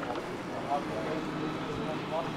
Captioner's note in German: Leise Stimmen